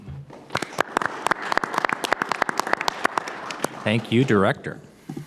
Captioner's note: audience applauding